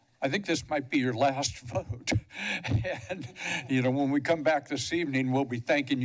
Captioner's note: laugh